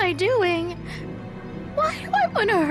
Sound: starts sobbing

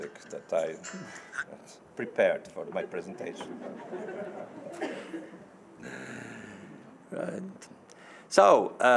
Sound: audience laughing

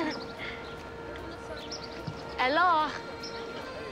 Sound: chuckles

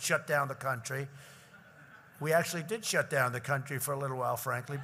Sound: laughter

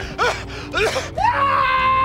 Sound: coughs

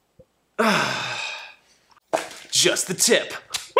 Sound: cries out; heavy sigh; howling in pain and excitement

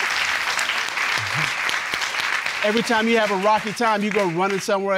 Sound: audience applauding

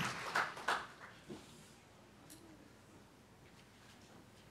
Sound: applause

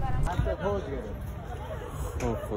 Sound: crowd noise

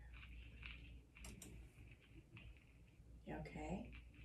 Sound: hearing aid making loud rumble

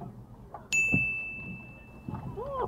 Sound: ding

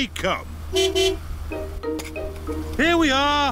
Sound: honks horn

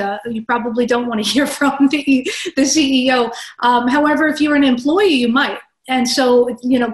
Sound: laugh

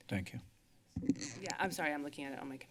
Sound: squeak sounds

